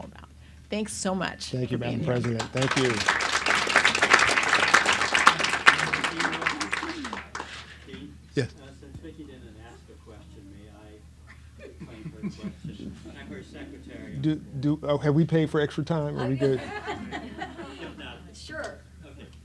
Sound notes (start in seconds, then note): 1.8 applauds